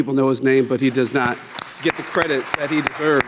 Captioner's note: people clapping